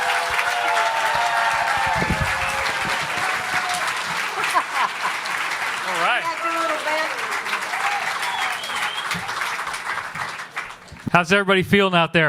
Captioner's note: applause